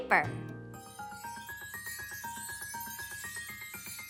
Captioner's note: chimes ring